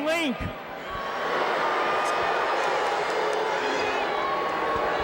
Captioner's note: audience shouting